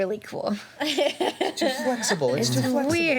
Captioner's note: laughing